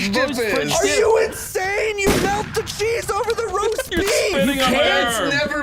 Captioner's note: laughs